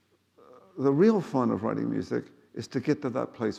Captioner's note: none